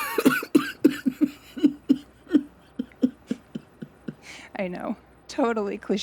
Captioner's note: laughter